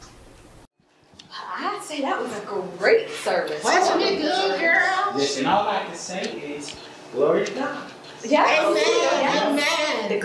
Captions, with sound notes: I say, that was a great service. (Indistinct chatter) Listen, what I like to say is, glory to God. (Indistinct chatter)